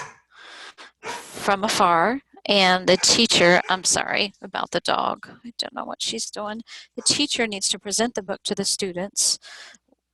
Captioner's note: barking